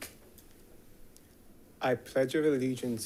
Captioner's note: rifle clacking